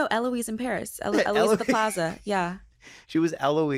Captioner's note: laughs